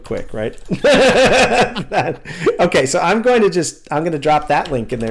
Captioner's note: laughter